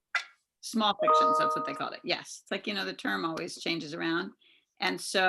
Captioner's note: chime